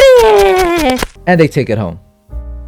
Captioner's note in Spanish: Aplausos